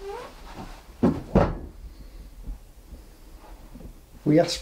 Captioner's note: thudding